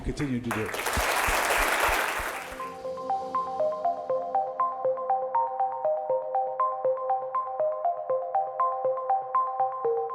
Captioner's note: applause